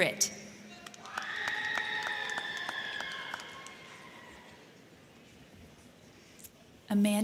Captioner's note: crowd clapping; crowd cheering